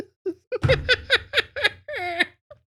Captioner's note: maniacal, unhinged Laughter